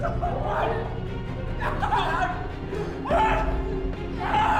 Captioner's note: yelling